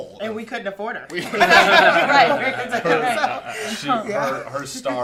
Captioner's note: laughter